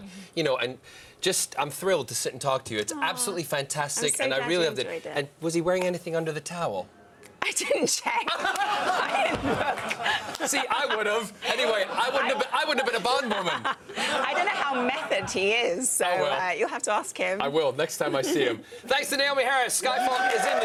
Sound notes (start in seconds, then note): 15.9 laughter